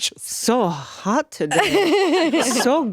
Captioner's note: laughing